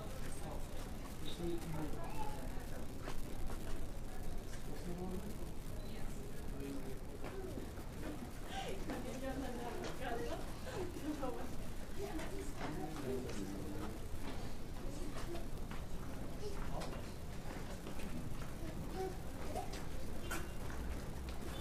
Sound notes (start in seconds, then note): 9.5 visitors speaking foreign language